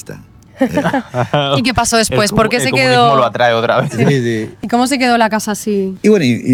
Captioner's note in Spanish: risas